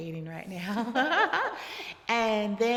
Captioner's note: both laughing